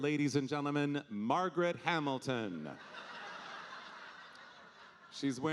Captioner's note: audience laughing